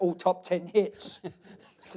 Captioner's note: laughs